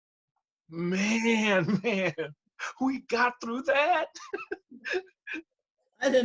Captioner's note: laughs